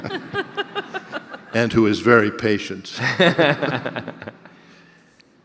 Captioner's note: audience laughter